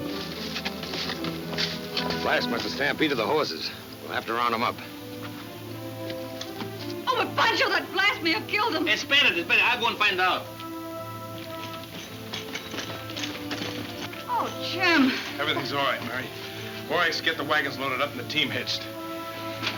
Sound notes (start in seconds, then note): 11.5 spurs jingle